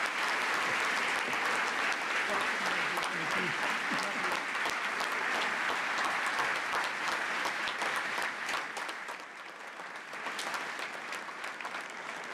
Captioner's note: applause